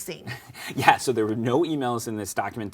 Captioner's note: laughs